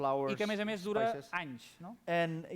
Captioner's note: non-english speech